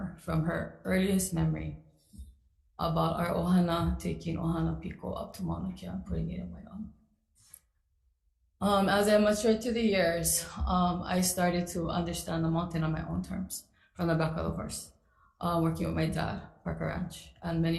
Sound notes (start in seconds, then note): 3.5 speaks foreign language